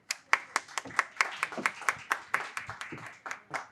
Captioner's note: applause